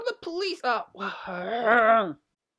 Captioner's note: sounds of discomfort